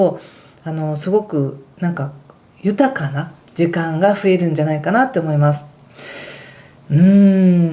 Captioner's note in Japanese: ため息